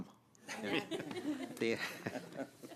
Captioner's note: laughter